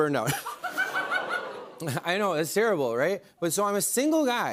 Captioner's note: audience groans